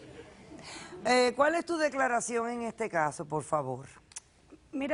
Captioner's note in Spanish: Risas